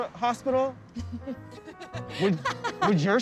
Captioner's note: laughter